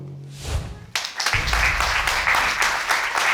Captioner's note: applause